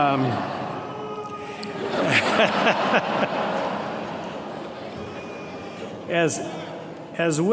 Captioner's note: laughter